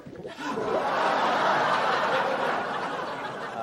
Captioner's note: then applause